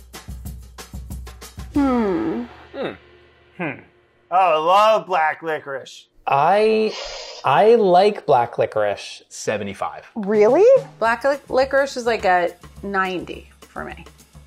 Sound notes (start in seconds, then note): 1.8 humming